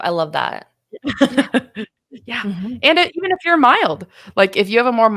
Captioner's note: laughing